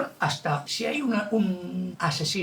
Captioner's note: none